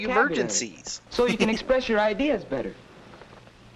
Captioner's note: chuckling